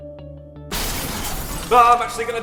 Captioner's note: crash